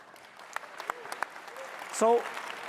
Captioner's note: audience applauds